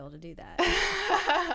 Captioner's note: laughter